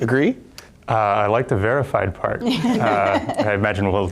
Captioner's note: group laughs